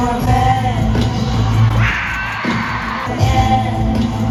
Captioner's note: a not normal scream